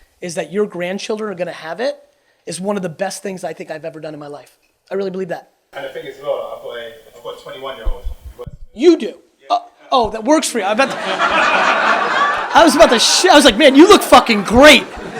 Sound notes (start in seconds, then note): 10.0 murmurs; 10.8 audience laughs